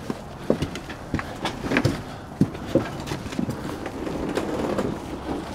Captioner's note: steps on wooden panel